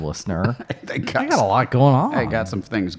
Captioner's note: chuckling